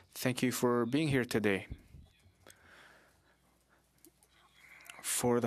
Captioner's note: speaking French